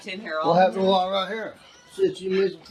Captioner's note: mumbling